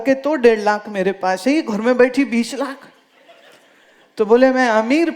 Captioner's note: laughter